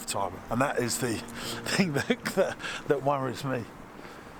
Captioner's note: laughs